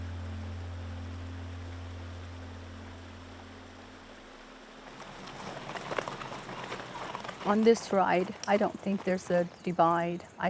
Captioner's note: water flowing